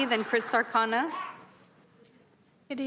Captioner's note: applause